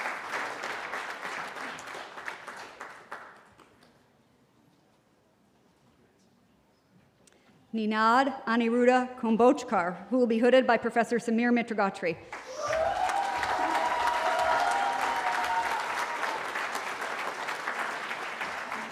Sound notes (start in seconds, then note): 12.3 cheering